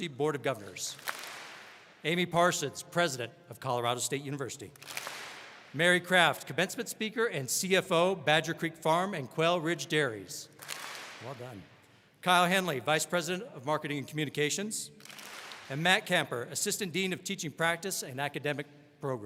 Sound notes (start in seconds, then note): 0.9 all clap; 4.8 all clap; 10.6 all clap